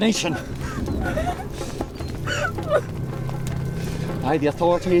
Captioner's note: sobbing